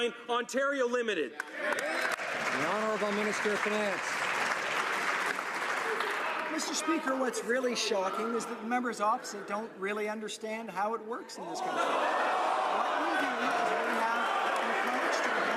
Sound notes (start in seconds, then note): 5.0 some Applause